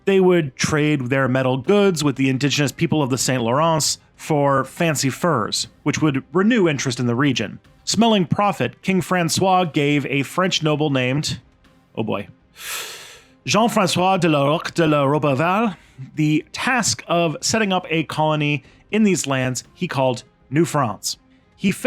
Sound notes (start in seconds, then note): 12.5 deep breath